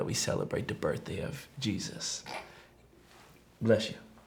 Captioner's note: man snorts